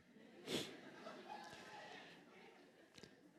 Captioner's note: laughter